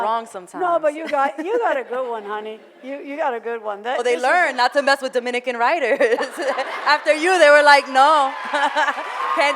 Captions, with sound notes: - They get it wrong sometimes. (laughs) - No, but you got a good one, honey. You got a good one. - Well, they learned not to mess with Dominican writers. (laughs) (audience laughter) - After you, they were like, "No!"